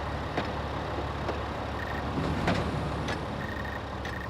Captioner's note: machine trilling